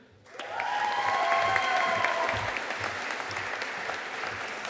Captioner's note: audience cheering and applauding